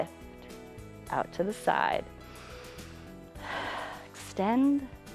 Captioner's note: inhales and exhales